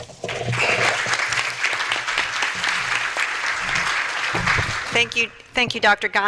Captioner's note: applause